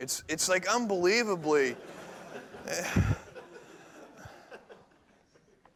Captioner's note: laughter